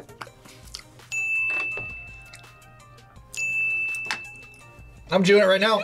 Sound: bell rings

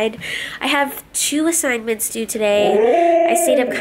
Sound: vocalizes

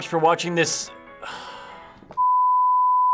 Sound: sighs

